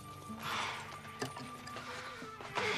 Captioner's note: sighs